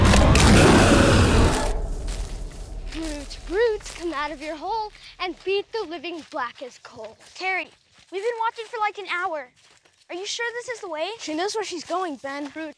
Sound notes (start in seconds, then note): 0.0 growling